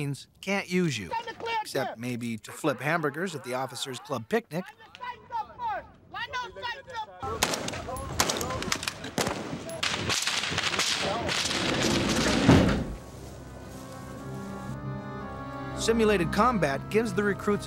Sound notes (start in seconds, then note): 7.2 gun shots